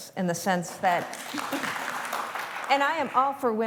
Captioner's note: applause